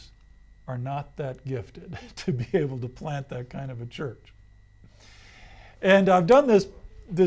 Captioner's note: laughs